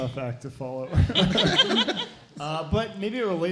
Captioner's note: laughing